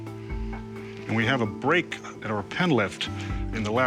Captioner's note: none